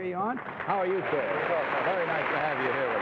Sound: audience applauds

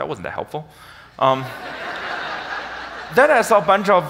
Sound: audience laughs

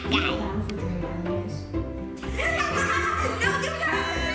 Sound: boys laughing

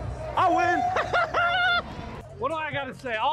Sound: player laughs

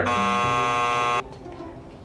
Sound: buzzer buzzing

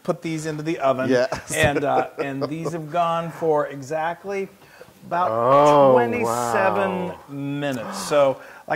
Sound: laugh

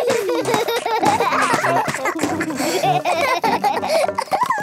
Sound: both laugh

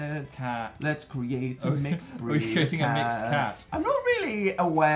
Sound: laughs

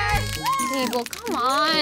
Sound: party horn blares

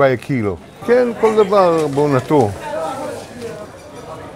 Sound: Speaking Hebrew

